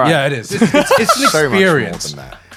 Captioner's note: laughing